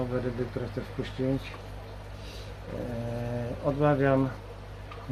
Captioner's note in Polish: parsknięcie